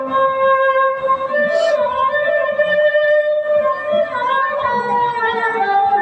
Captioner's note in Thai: เสียงหัวเราะ